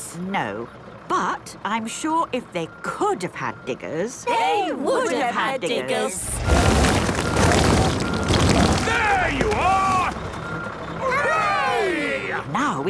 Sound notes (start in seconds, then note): 6.2 rock crumbling